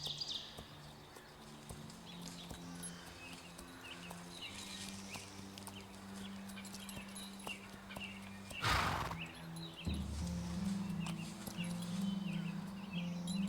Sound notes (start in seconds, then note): 0.1 birds chirping; 0.7 suspenseful music; 8.6 horse snorts; 10.5 curious music